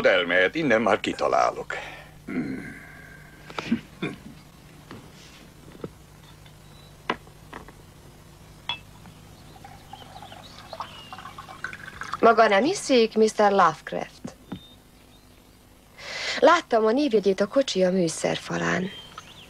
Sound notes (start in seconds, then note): 8.6 glass clinking